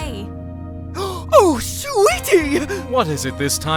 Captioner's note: gasps!